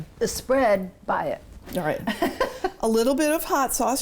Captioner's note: chuckles